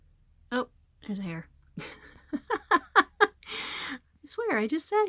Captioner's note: laughter